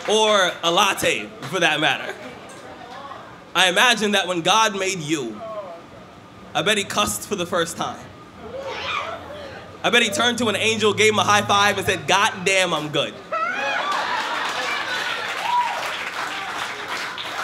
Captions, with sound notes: Or a latte for that matter. I imagine that when God made you I bet he cussed for the first time. (cheers) I bet he turned to an angel, gave him a high five and said god damn I'm good. (laughter and applause)